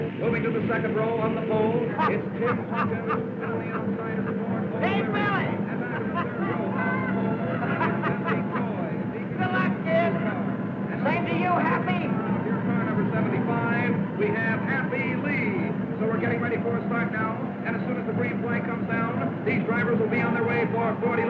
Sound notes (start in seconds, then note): 1.9 happy laughing